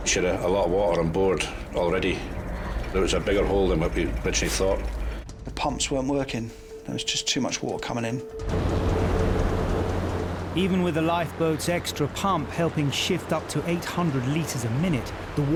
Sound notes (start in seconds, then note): 8.4 waves roaring; 8.6 gentle music